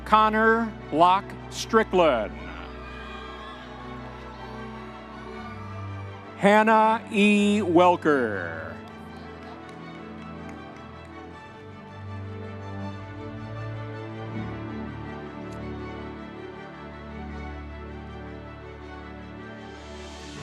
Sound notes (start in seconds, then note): 2.4 audience members cheering; 9.5 dramatic orchestral music continues